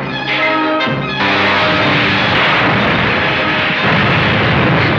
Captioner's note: explosion booms